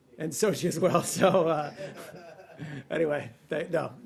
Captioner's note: laughter